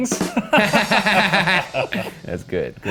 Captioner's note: all laughing; ba dum tss playing